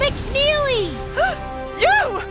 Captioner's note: gasp